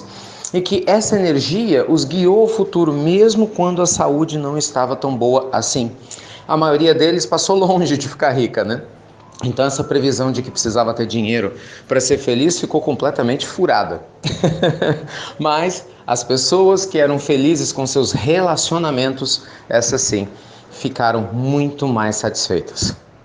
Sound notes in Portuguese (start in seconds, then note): 14.2 risos